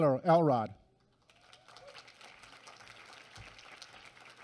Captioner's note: applause